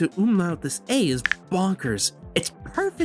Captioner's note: umlaut sounds